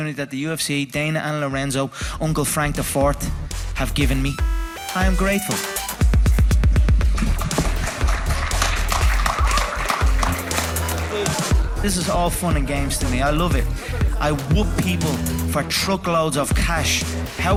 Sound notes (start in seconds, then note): 7.1 applause; 9.4 electronic music